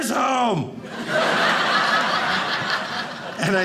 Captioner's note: audience laughing